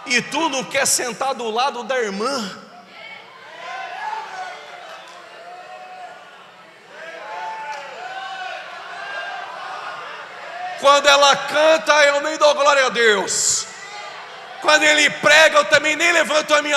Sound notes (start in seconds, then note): 4.7 applause